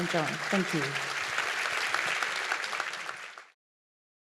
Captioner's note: applause